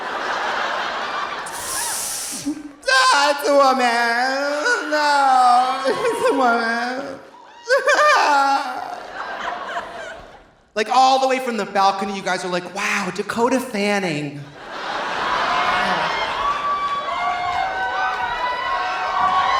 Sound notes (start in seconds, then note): 0.0 audience laughing; 6.3 imitates crying; 14.5 audience laughing; 14.6 audience cheering